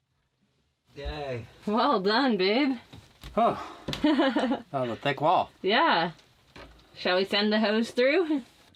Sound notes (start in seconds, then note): 4.0 chuckling